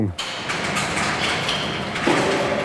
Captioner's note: rattling, hydraulic whirring